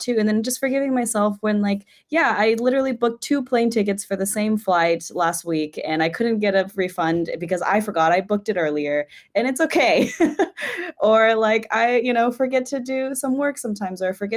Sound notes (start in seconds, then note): 9.8 laughs